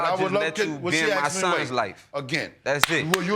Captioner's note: applause